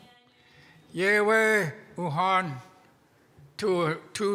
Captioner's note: speaking in Łingít